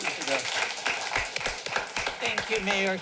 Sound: applause

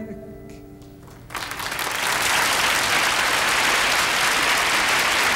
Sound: audience clapping

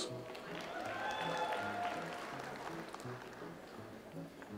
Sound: audience applauds

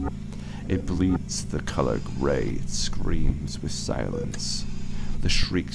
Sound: mechanical ambiance; mechanical ambiance

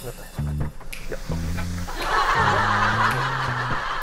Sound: the door opens

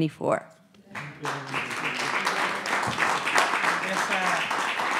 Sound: audience applauds

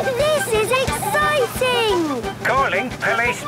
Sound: giggling; voice over radio

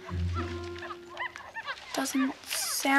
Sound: monkey screeches

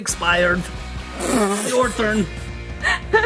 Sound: laughing

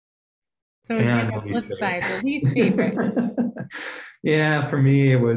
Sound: laughs

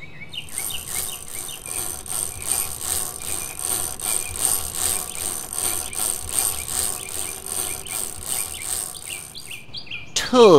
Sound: chain cranking

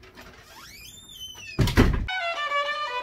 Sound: door closes; violin music

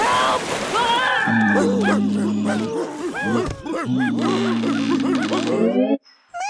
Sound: bear growling; dogs barking

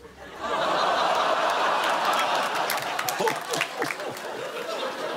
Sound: audience laughing

